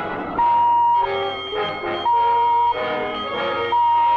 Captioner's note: bell ringing